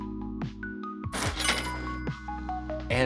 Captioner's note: register dinging